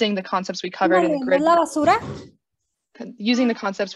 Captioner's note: woman speaking foreign language